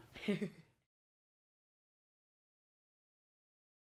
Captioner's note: laughs